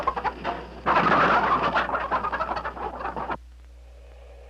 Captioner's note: chickens clucking